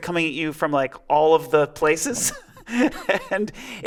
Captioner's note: laughing